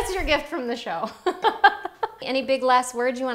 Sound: laughing

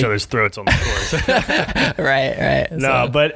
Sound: laughing

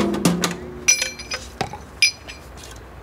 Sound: clinking

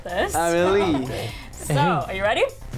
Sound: laughs

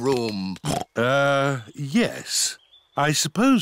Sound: oinks

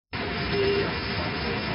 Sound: angle Of Attack Warning Sound

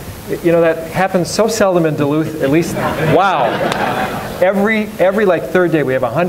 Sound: audience laughs

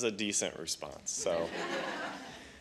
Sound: laughter

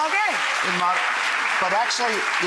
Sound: applause

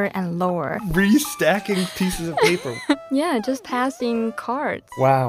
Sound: speaking Mandarin; laughs

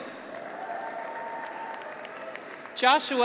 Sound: graduates cheer

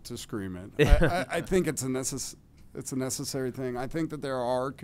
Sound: laughter

